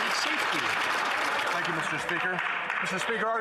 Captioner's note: some Applause